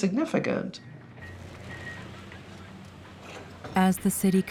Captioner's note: bells ring